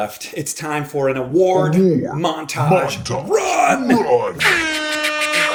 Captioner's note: echoing; beatboxing; air horns blare